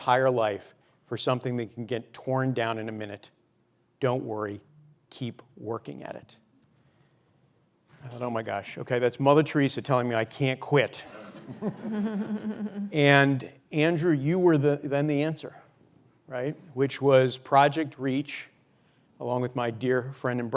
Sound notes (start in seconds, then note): 11.2 laughter